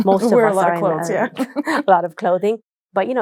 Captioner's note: chuckles